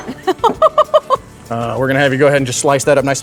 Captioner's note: laughing